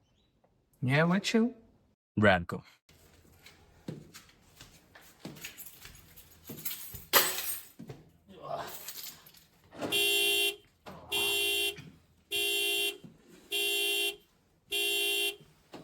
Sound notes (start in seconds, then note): 0.3 speakers conversing in foreign language; 9.4 car honks